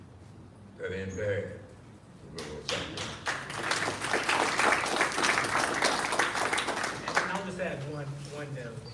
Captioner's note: applause